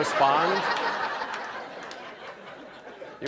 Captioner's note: laughter